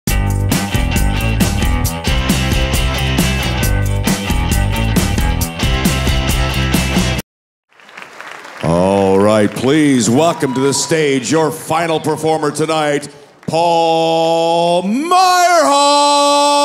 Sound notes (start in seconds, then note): 0.1 upbeat music; 7.7 audience applauding